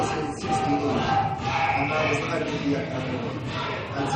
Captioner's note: whistle blows, chanting continues